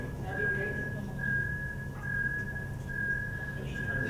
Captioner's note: loud intercom continues